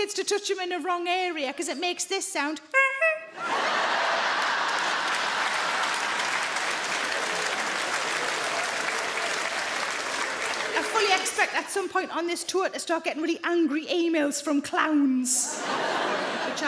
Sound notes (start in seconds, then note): 2.6 Sarah imitates horn honking; 3.4 audience laughing and clapping